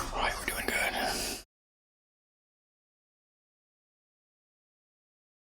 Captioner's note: blank Audio